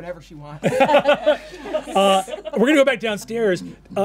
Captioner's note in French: rires